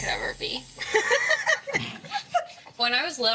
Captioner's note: laughter